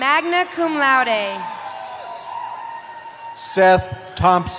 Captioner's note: cheering